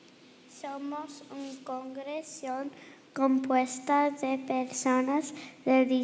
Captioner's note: girl speaking in foreign language